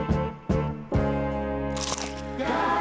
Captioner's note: crunching